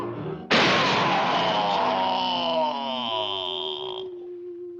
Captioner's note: body crashes